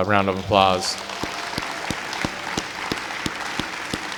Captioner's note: clapping